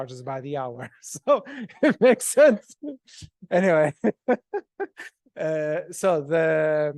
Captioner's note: laughs